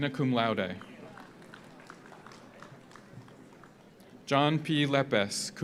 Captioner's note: audience applauds